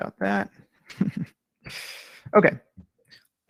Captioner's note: chuckles